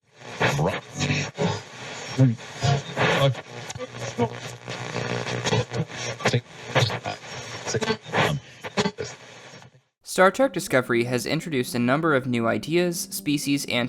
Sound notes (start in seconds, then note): 0.2 radio static